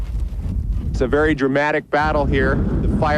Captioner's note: fire roaring